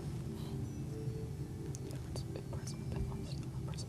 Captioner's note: whispering